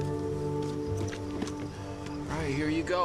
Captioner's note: trunk hood clicks; luggage handle clacks